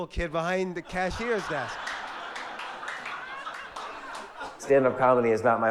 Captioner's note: audience laugh